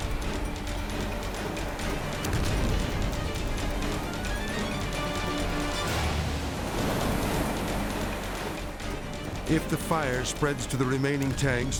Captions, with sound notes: (intense orchestral music) (explosion rumbles) (dramatic orchestral music) (suspenseful orchestral music) If the fire spreads to the remaining tanks,